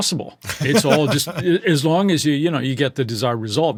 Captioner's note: laughing